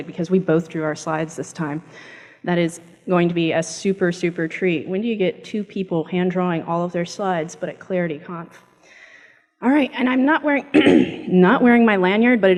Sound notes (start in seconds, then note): 10.7 clears throat